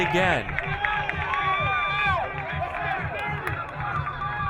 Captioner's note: crowd cheering